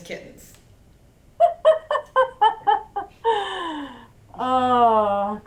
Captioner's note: laughing giddily